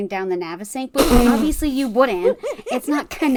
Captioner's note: sputters